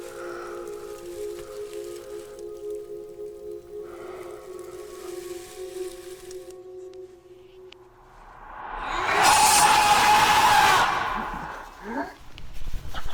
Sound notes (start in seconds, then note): 8.7 screaming